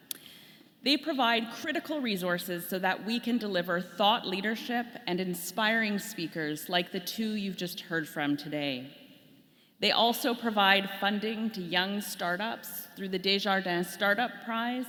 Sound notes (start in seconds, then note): none